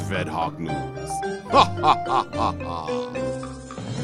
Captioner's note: sinister laugh